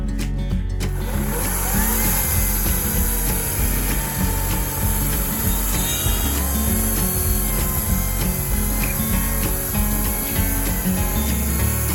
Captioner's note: electric chainsaw sound